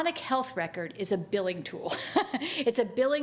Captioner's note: chuckles